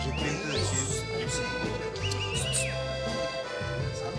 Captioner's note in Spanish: silbidos